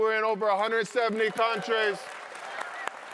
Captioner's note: audience applauds